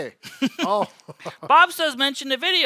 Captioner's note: chuckling